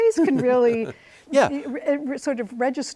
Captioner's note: chuckles